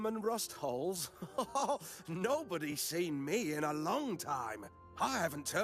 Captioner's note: laughs